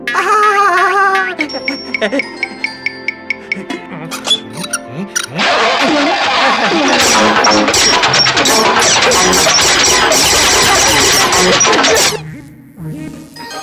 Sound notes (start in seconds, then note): 4.1 swivel noise; 5.3 car starting up again; 7.1 car breaking and shooting